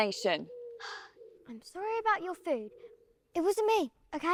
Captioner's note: sighing